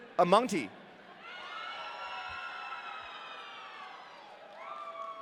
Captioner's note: audience cheering